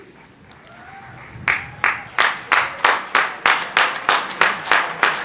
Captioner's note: crowd applauding